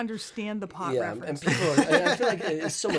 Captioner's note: laughter